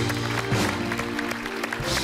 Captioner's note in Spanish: aplausos